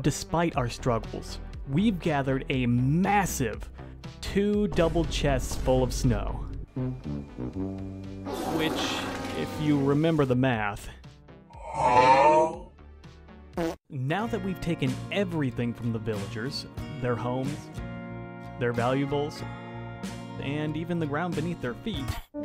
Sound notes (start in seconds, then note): 6.7 fart; 6.7 sad trombone